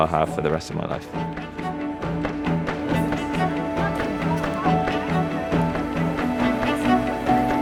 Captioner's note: pleasant music; people talking